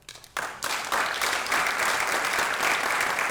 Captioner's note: applause